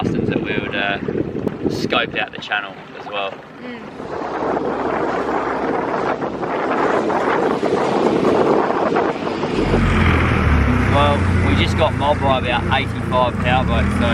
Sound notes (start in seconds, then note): 4.8 wind blowing; 10.0 boat engine roaring